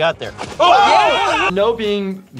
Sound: guys scream

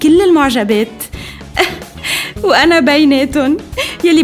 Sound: chuckles

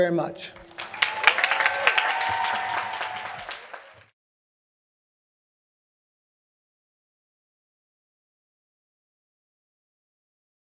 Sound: applause

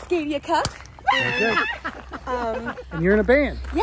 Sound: shouts

